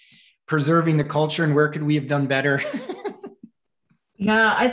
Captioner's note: chuckles